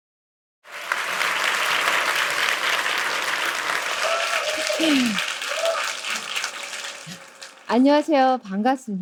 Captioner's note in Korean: 박수와 환호